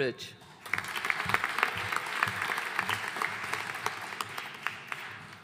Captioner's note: audience applauding